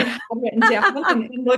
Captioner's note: laughs